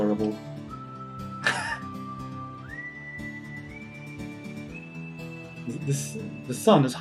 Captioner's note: laughs